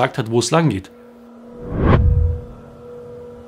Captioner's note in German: Dröhnen